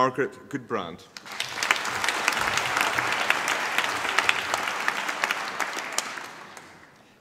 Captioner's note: applause